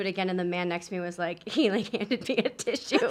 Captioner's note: laughs